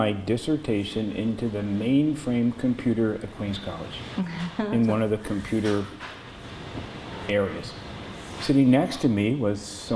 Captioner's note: laughter